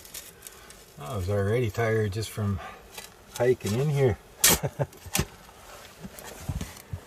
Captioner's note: laughter